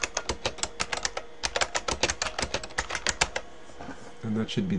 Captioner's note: typing